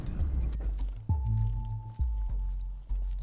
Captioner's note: footsteps on stony ground; ambient music with a forbidding chime